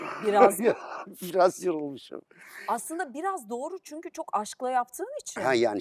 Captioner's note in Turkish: homurdanır